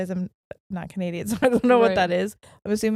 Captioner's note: laughing